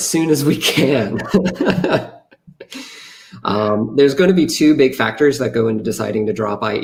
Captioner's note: laughs